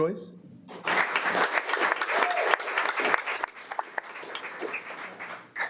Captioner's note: audience applauding